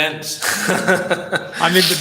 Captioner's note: laughs